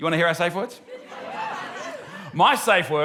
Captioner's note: whooping